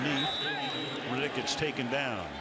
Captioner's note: whistle